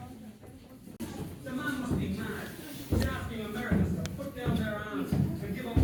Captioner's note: background recording playing